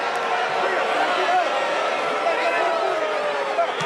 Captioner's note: crowd boos